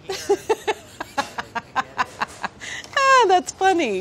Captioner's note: laughing